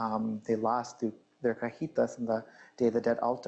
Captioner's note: speaking in foreign language